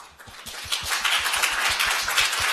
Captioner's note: applause